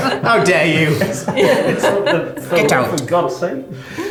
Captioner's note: laughing